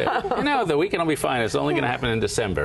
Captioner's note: laughter